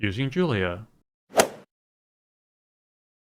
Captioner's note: swoosh